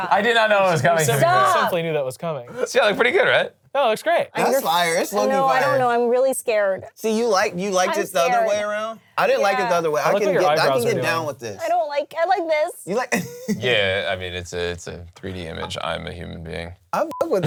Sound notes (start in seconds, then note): 13.0 laughs